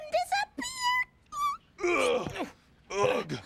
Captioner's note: Theo grunting